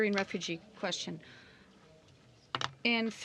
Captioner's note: speaking in french